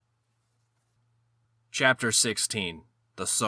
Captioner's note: beat